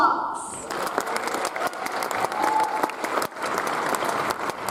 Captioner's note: audience applauds